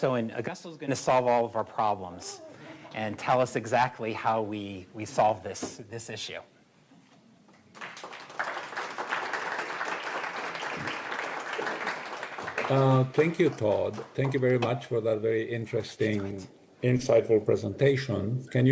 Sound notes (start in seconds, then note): 7.7 applause